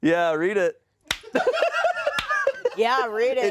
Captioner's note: laughter